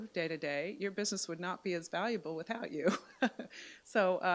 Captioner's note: chuckles